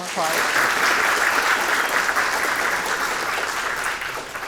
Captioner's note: audience clapping